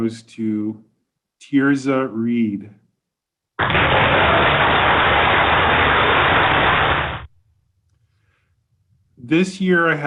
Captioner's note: applause